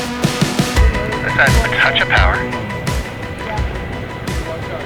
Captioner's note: ground Radio